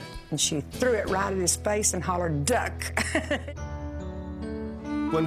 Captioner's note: laughs